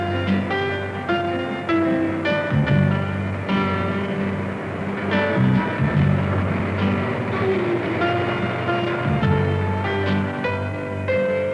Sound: traffic sounds

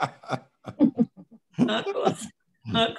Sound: laughs

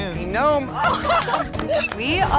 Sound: applause and laughter

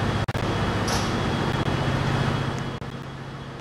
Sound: doors open

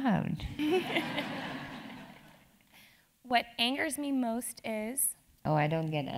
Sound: laugh

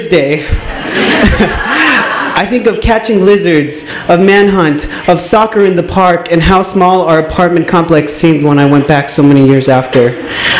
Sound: laughs

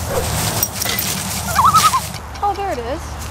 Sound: loon call

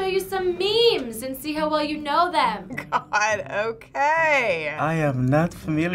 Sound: chuckles

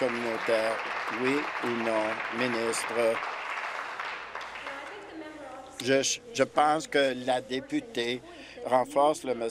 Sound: applause

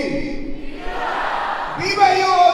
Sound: crowd

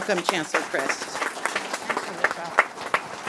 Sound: audience applauding

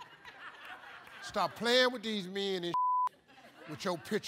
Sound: beep

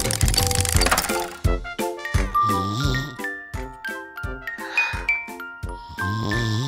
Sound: tranquil music; baby snoring

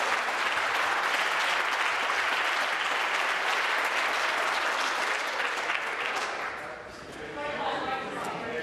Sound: applause

